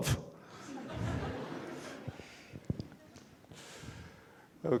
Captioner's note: audience laughs